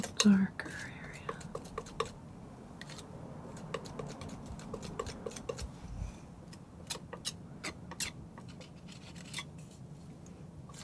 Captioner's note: scratching